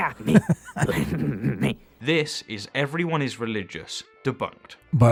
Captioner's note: laughing